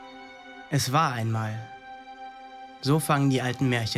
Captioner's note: voiceover